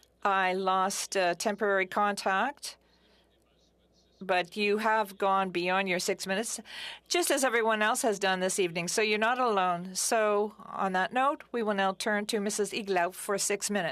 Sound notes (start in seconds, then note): 5.4 speaking French